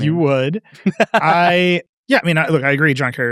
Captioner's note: laughing